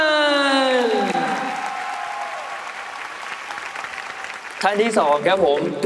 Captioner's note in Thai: ปรบมือ